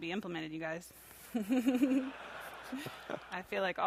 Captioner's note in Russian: смеется